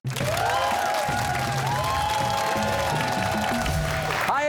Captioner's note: cheers and applause